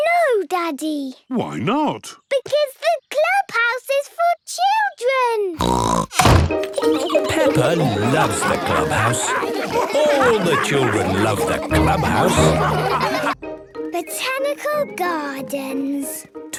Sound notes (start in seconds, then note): 5.6 snorts; 12.8 all laughing